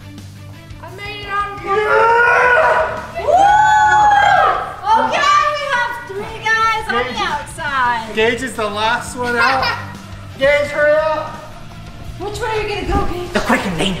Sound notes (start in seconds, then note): 2.7 grunts; 3.8 cheering